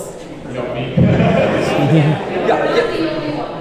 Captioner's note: audience laughs